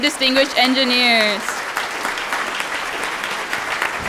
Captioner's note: applause